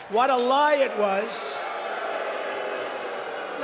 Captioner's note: crowd booing